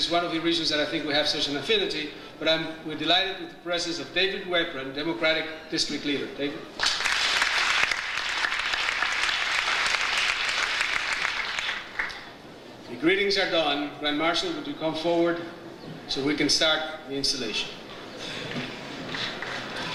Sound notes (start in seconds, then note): 6.8 audience applauds